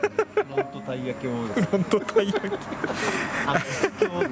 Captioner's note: laughs